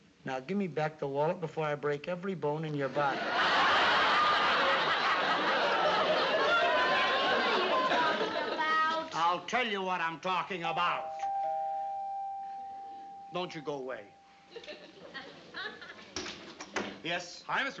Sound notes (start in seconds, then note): 10.7 doorbell ringing